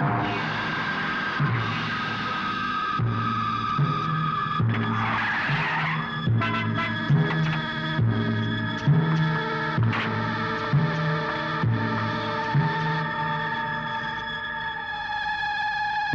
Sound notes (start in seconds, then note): 4.7 brakes squeal; 5.9 horn blares